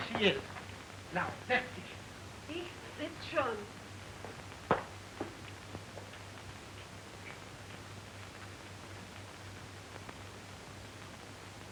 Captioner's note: speaking german